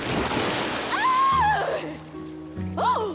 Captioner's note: shrieking